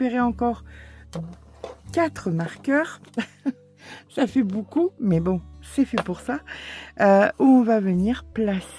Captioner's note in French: rires